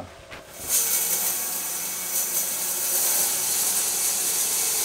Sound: saw whirring

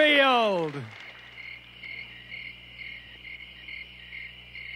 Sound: crickets chirping

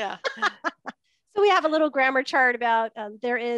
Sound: laughs

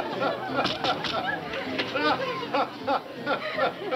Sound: knocking

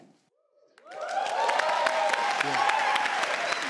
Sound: cheering

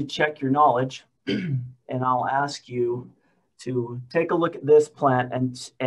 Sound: clears throat

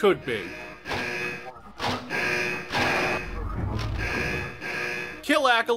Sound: not-so-annoying alarm

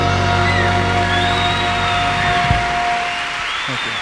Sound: audience applauds

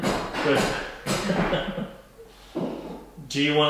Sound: both laughing

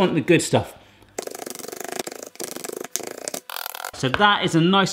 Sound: pretend chopping noise

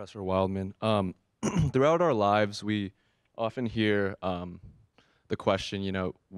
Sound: cough

